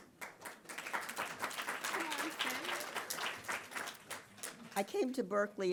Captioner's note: audience applauding